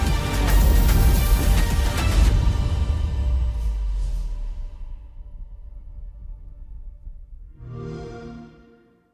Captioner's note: xbox sound